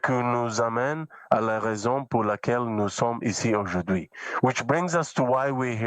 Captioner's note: speaking French